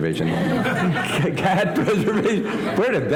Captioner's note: laughter